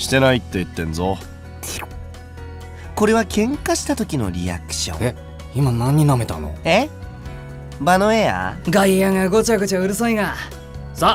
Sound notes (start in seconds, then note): 1.6 slurp